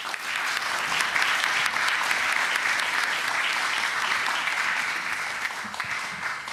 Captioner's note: applause